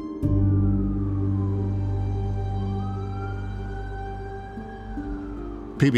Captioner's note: sirens wailing in distance